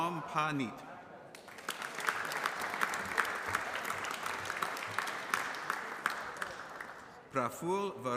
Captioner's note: applause